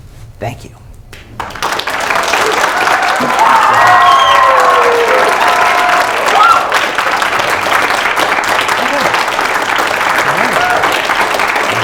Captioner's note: applause and cheering